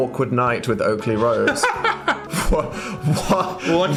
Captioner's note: Phil laughs